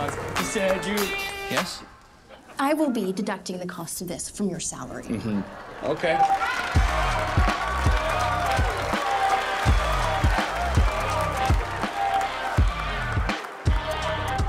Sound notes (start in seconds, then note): 8.1 applause